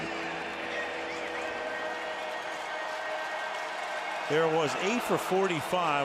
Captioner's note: pa announcement